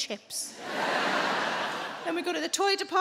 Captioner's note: audience laughing